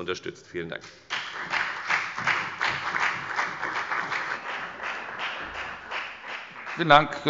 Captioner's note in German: Beifall bei der FDP und bei Abgeordneten der CDU